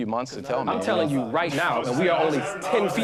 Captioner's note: overlapping chatter